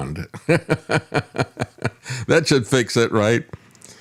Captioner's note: laughs